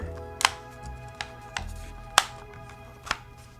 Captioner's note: buttons clicking